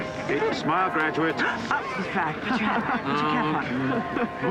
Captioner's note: gasps